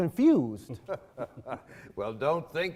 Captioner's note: laughing